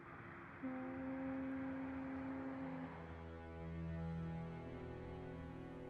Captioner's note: boat horn blaring